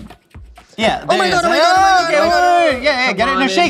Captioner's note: all yell